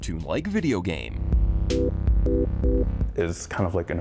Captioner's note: playful music; audio warbling